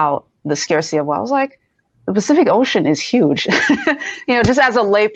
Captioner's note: laughs